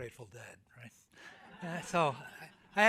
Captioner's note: audience laughs